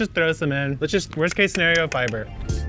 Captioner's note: tongue clicking